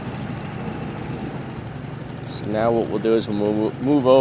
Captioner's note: engine cuts off